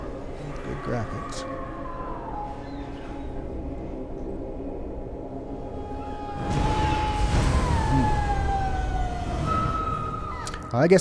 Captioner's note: people screaming